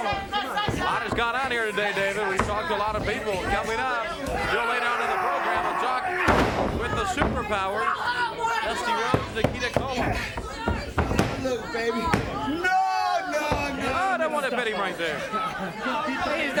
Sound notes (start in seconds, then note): 0.4 crowd clamoring; 4.5 grunting; 6.2 body thudding; 9.1 hands thudding